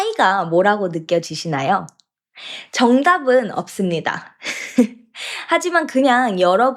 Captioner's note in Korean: 웃음